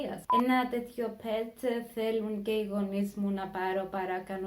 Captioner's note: beep